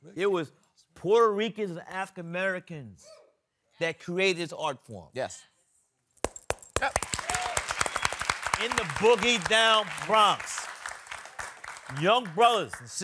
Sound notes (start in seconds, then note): 6.4 applause